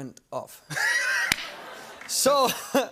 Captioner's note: laughter